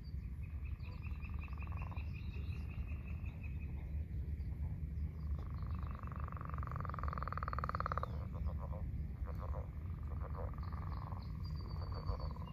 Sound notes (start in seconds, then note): 0.1 birds chirping; 1.6 leopard frogs calling; 8.5 leopard frogs calling louder